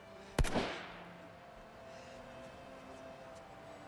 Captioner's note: gunshot